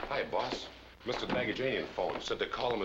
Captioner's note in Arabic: يتمتم